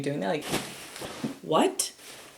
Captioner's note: bag plops